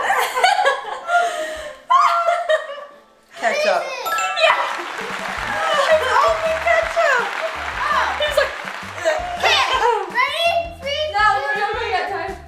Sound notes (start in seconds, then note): 0.2 laughing; 4.0 correct bell rings; 4.8 laughing; 8.6 mimics dry retching